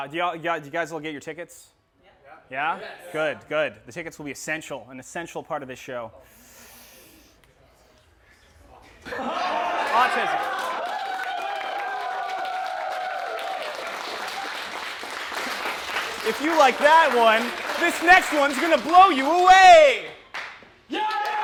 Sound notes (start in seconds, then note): 9.4 cheering; 9.7 applause